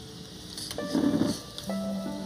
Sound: chair stool rattles

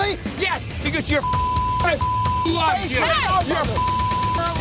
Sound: beep

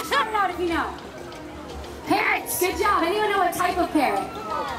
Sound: goblin voice

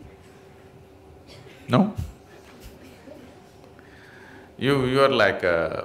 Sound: laughs

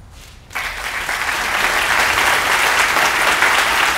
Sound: applause

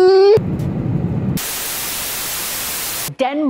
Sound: TV static FX

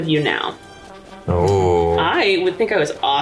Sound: exclaims softly

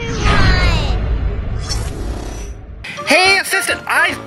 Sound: futuristic humming

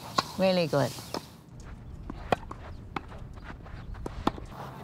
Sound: ball sounds

